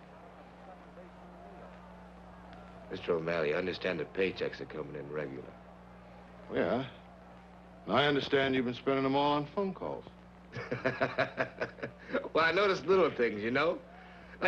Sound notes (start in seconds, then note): 10.5 Roy and Mr. O'Malley laughing